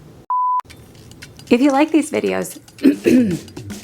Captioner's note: clearns throat